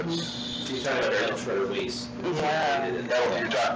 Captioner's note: indistinct chatter